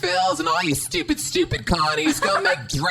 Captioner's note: laughs